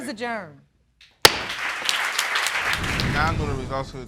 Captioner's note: audience clapping